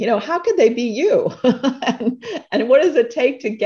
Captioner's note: laughter